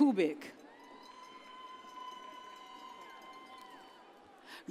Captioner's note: audience cheers